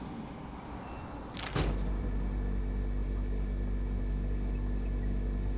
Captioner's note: humming